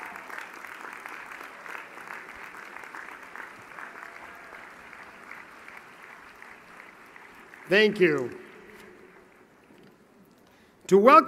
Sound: applause

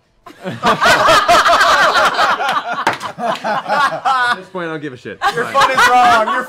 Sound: laughter

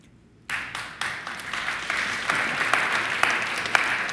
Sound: audience clapping

